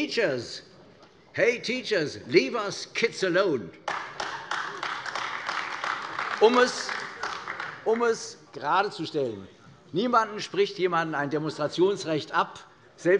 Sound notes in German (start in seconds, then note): 3.8 Beifall AfD